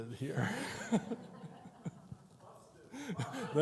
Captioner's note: everyone laughs